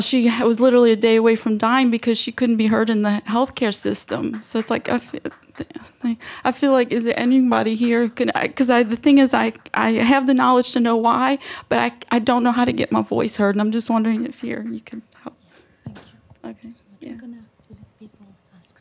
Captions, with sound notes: she was literally a day away from dying because she couldn't be heard in the healthcare system. So it's like... (person clapping) I feel like is it anybody here, 'cause I the thing is I have the knowledge to know why, but I don't know how to get my voice heard and I'm just wondering if here if you could help.